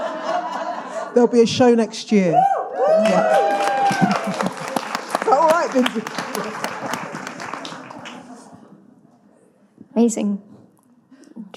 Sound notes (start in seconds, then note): 2.8 audience cheering and applauding